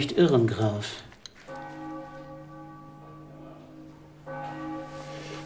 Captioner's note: church bells ring